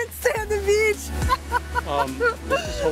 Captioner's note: laughs